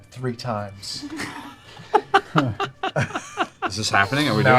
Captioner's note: laughter